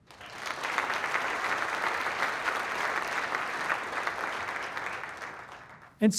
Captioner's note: applause